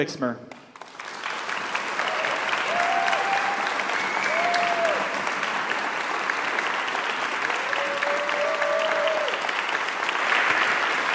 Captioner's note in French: applaudissements